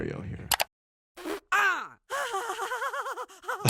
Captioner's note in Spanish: Hermana queef riendo; sonido cómico del viento